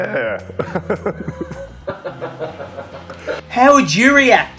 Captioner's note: laughing